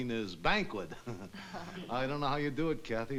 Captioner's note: chuckles